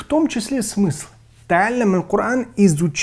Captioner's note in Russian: Говорит на арабском